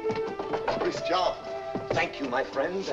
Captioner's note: knocking on door